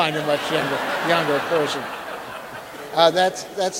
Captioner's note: audience laughing